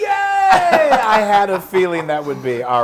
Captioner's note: laugh